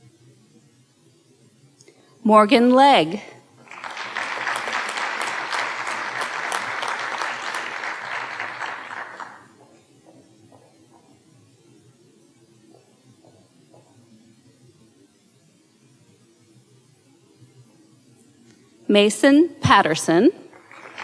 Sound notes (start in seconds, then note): 3.6 audience applauding; 20.4 audience applauding